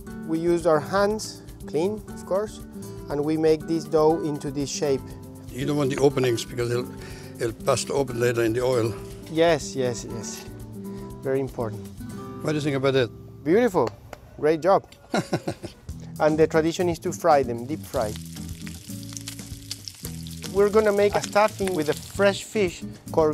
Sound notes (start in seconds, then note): 15.0 laughs